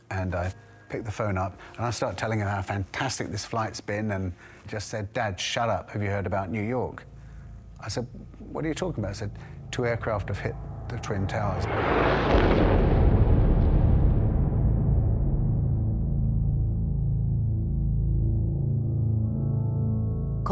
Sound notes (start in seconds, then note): 10.6 explosion booming; 11.7 aeroplane whooshing; 18.3 tense ambient music